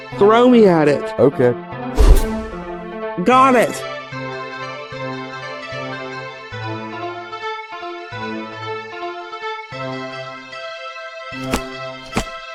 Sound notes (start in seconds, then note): 2.0 woosh, clink; 12.0 thump, thump